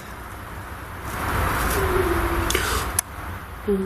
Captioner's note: whine; gasp